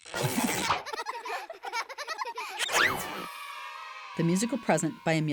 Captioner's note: children laughing